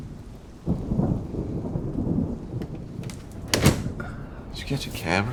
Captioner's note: thunder rumbling